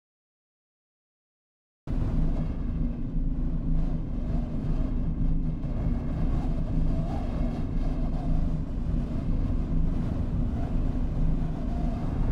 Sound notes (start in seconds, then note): 2.0 spaceship wind